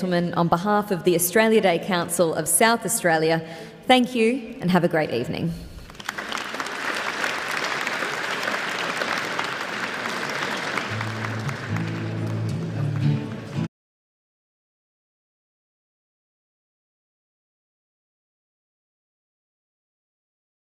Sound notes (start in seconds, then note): 5.8 applause